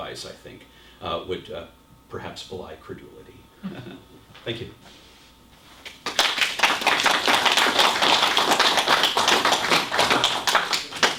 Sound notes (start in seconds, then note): 6.0 applause